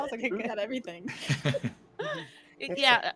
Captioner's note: laughing